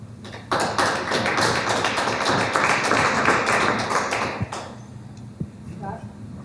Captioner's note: applause